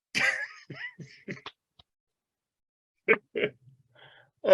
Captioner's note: chuckles